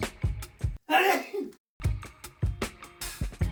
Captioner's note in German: niest sehr laut xD